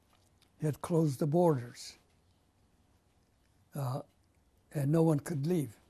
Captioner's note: pauses for 3 seconds